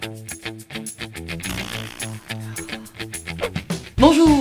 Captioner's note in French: Bruit de pet et soupir de soulagement